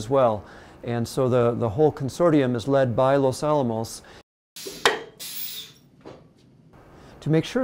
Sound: sound of shock test

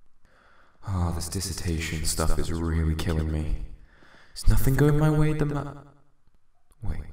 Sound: sigh

